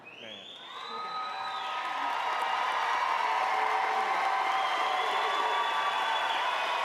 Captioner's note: audience clapping